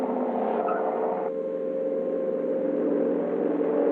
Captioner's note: air siren blaring